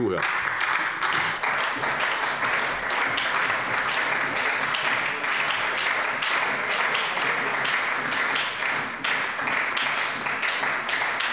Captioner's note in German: Beifall bei der SPD, der FDP, der CDU und dem BÜNDNIS 90/DIE GRÜNEN